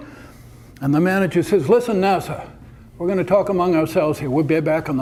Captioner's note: none